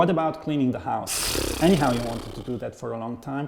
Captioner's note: blowing raspberry